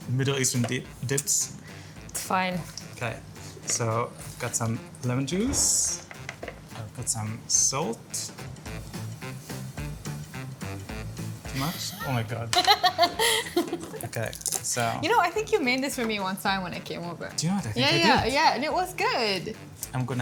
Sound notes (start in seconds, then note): 8.7 upbeat music continues; 12.5 laughter